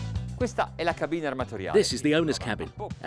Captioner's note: speaks in foreign language